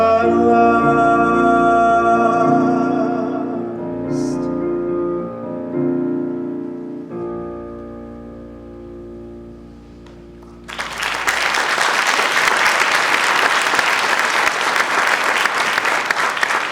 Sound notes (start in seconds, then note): 10.4 audience applauds